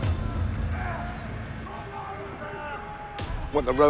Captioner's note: shouting